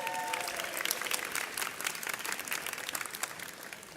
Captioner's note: audience cheers